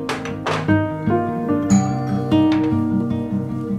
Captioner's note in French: sonnerie de la porte d'entrée